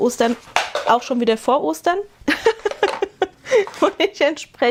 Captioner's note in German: gelächter